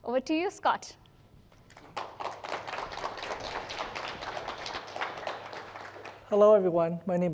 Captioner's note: applause